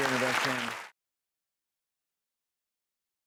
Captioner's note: applause